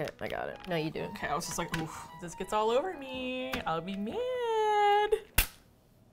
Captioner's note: high singsong voice